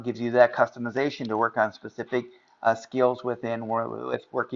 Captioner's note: none